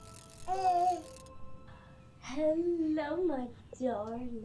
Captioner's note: baby cooing